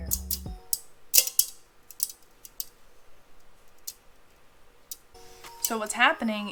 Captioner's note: caramel crackling